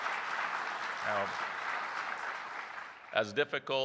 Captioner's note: applause